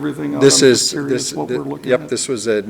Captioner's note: chattering